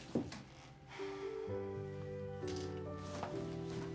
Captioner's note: sighs